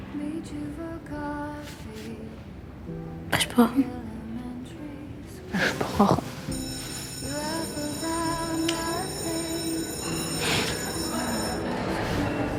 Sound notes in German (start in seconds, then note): 6.5 Schulglocke läutet; 8.2 Leise gefühlvolle Musik; 11.2 Stimmengewirr